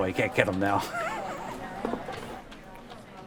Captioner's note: laughing